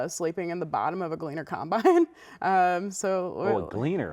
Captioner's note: laughs